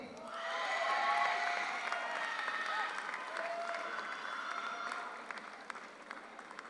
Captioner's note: audience cheers; audience applauds